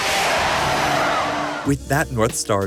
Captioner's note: screams